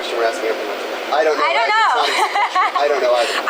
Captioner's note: laughs